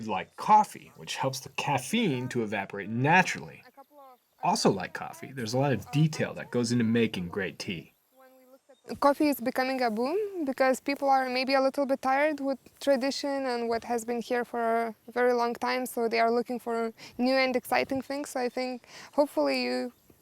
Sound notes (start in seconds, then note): none